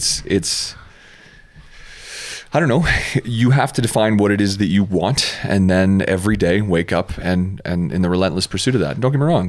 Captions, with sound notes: (inhales) I don't know, you have to define what it is that you want, and then every day, wake up in the relentless pursuit of that,